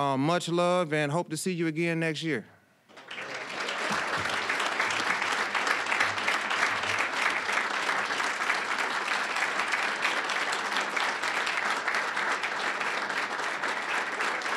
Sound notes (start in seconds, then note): 2.9 applause